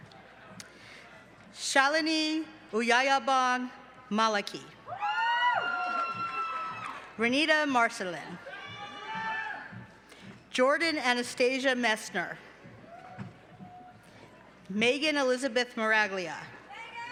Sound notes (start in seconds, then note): 4.8 cheering